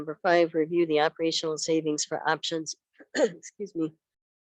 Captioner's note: coughs